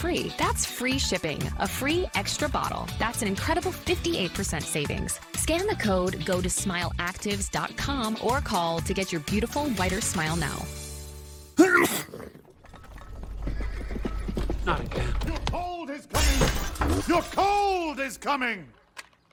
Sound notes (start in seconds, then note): 11.6 sneeze; 14.2 hooves approaching